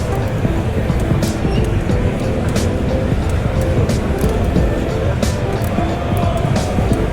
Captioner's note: crowd applauding